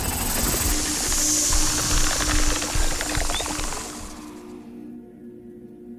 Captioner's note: snake hisses; snake rattles